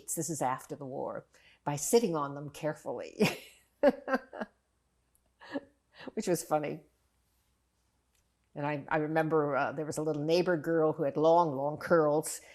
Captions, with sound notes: this is after the war, by sitting on them carefully. [LAUGHING] Which was funny. And I remember there was a little neighbor girl who had long, long curls,